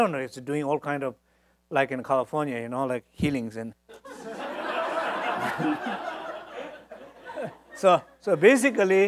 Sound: audience laughs

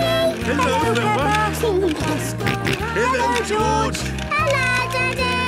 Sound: George giggling and snorting

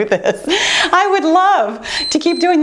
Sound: timer beeps

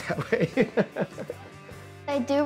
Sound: laughs

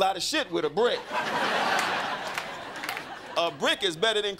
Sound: crowd laughing

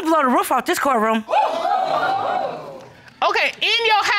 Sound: audience exclaiming

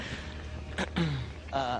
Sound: clears throat

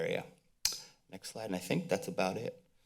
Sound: mouth clicks

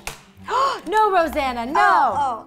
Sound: gasp

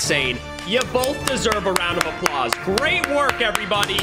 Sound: clapping hands

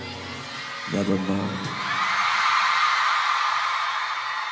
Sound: cheering

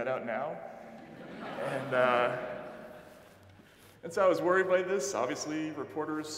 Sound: audience laughing

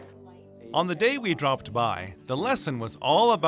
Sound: voiceover

